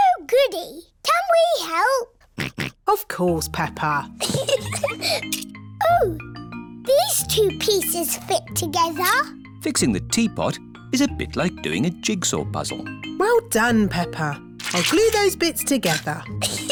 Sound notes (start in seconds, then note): 2.3 snorts; 4.2 giggles